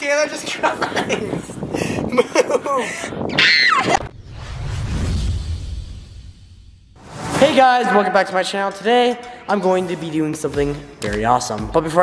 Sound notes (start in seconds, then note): 3.3 screams